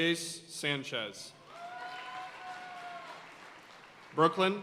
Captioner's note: audience cheering and applauding